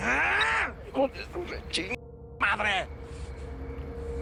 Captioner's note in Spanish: Gruñido